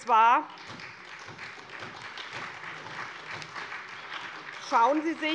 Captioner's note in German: Beifall bei der SPD